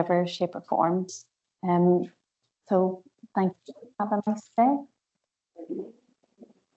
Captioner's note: audio distorts 01.00.46